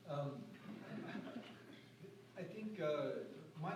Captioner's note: laughter